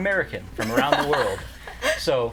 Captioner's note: laughter